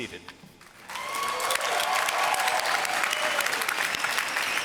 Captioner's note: applause